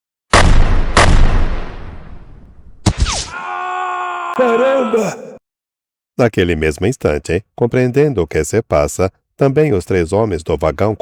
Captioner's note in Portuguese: grito